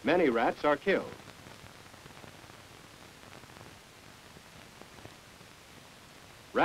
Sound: silence

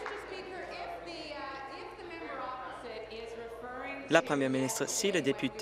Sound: applause

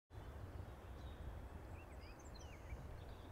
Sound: birds chirping

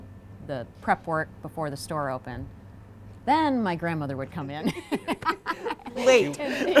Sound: laughs

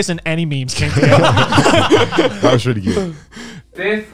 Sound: laughter

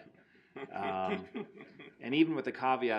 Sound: laughing

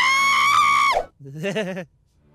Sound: audibly shivers

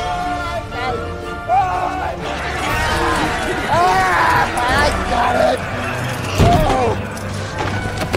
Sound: pirates shouting

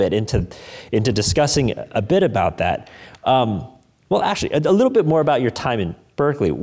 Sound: none

